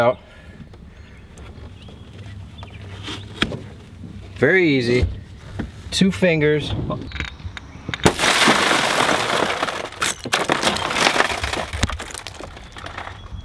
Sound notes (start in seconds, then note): 8.0 glass shattering